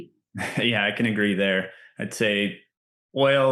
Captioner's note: laughs